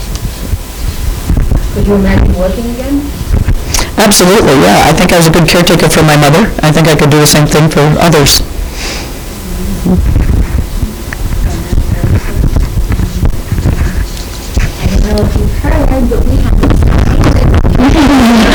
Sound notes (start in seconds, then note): 10.0 students mumbling